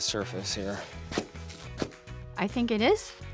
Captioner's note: crunching